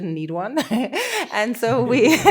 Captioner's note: laughing